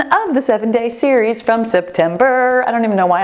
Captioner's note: none